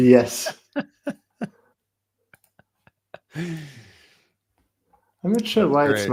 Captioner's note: laughter